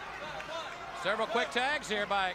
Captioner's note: crowd chatter